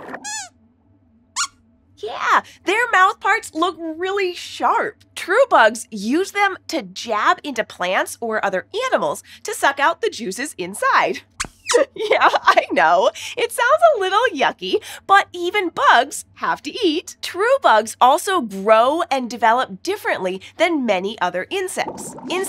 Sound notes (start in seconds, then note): 0.0 squeaks squeaks; 11.4 squeaks squeaks